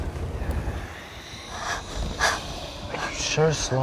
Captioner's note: breathing heavily